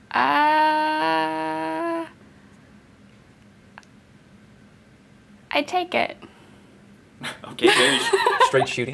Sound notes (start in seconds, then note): 7.7 laughs